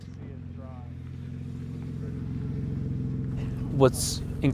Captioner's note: car engine purring